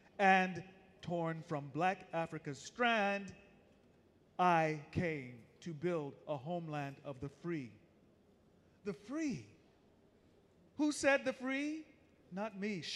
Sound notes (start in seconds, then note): none